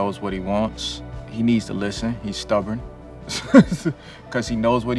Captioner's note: laughs